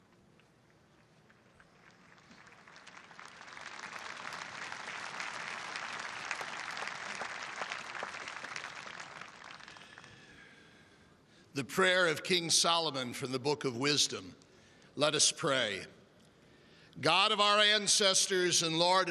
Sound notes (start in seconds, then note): 5.6 applause